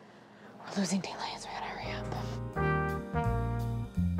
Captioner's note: whispers; light jazz music